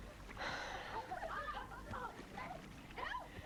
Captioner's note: Hundra sighs